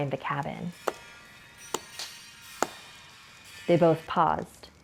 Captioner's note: knocking